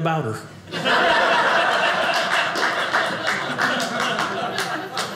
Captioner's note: audience laughing